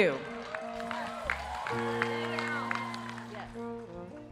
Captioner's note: audience cheering